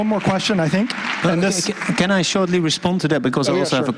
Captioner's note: applause